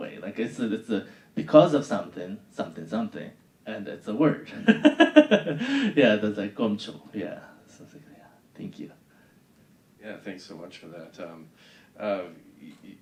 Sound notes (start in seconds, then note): 4.6 laughing